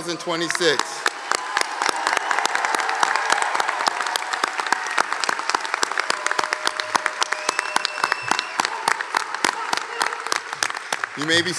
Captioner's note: applause